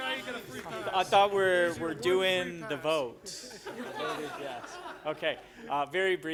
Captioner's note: laughter